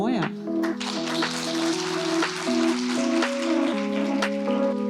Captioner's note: applause